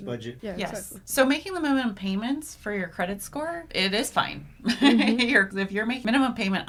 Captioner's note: laughs